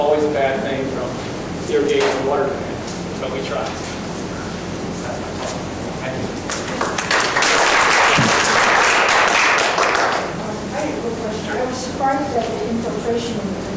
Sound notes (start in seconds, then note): 6.4 class claps